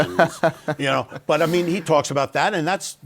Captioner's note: laughs